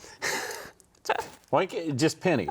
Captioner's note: chuckling